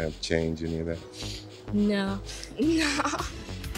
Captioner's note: laughs